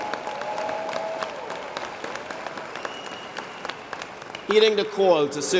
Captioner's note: applause